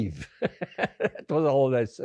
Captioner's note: laughing